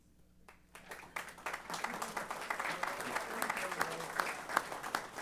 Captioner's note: applause